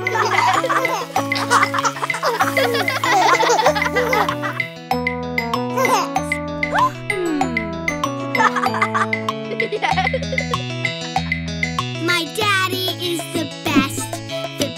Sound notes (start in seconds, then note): 0.0 chuckling; 0.1 lively music; 6.8 gasping; 8.3 chuckling